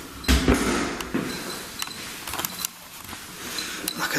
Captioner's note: beeping